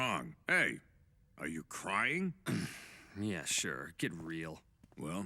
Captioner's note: clears throat